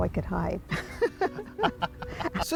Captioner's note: laughter